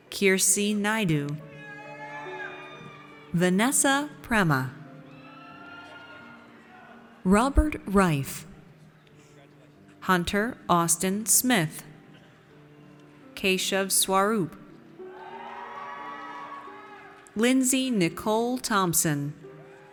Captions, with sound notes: Kirsi Naidoo. (audience cheers) Vanessa Prema. (audience cheers) Robert Rife. Hunter Austin Smith. Keshav Swarup. (audience cheers) Lindsey Nicole Thomson.